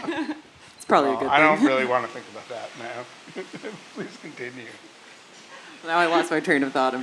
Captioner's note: laugh